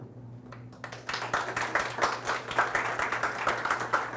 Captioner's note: audience applauds